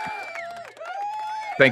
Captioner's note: audience cheering